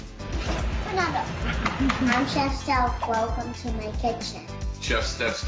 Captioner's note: upbeat music; kisses